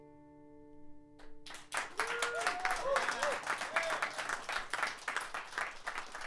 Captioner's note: applause